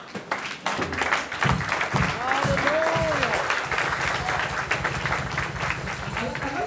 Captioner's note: applause